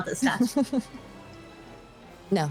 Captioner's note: Dal Mure laughs